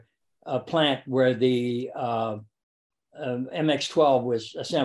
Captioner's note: none